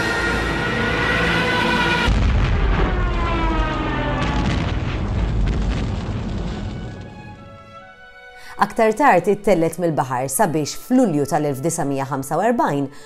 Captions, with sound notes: [bombing noise] It was lifted from the sea and in July 1945